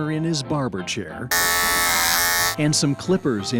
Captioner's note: clippers buzzing